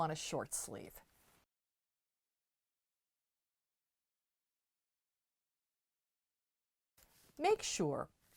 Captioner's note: no Sound Present